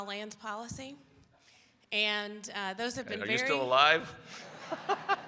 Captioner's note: laughter